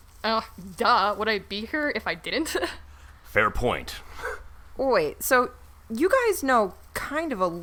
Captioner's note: laughs